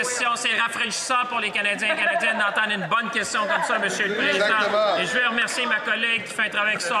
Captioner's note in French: voix de l'interprète